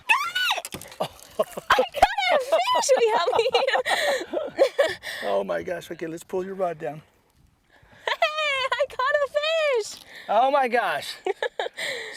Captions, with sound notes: got it!!! [laughter] I caught the fish! can you help me? Oh my gosh [laughter] oh my gosh lets pull your rod down Hey I caught a fish!!! Oh my gosh [laughter]